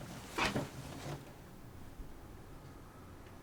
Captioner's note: none